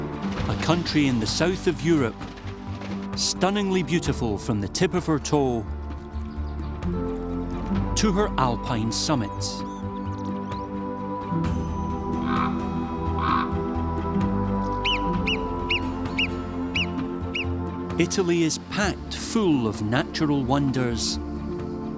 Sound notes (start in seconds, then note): 13.1 ibex grunting; 14.7 squeaky calls